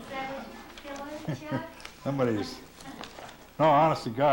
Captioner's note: laughter